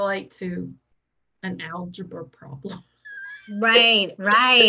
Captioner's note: laughs